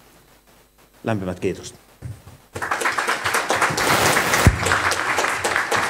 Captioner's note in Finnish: Aplodeja